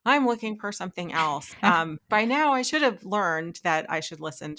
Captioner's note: laughing